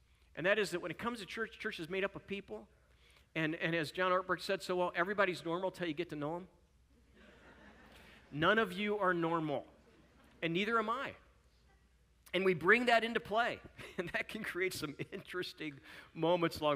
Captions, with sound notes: And that is that when it comes to church, church, is made up of people, and as John Ortberg said, "Everybody's normal until you get to know them.” [Chuckling] None of you are normal and neither am I. And we bring that into play, and it can create some interesting moments.